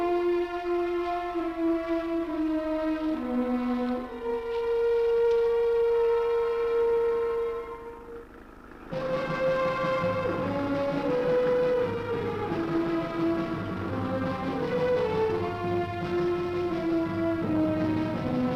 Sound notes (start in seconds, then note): 6.7 engine humming